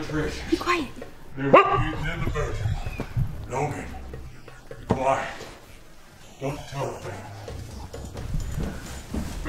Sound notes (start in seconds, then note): 1.5 dog barking